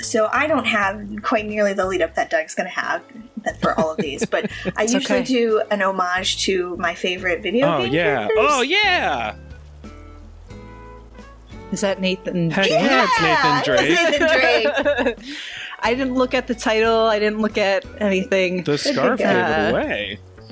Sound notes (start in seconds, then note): 12.7 laughter